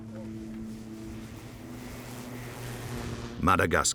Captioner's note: plane engine whirring